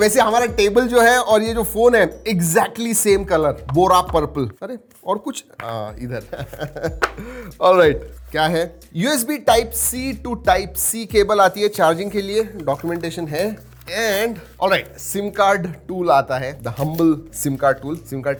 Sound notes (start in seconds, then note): 6.1 laughs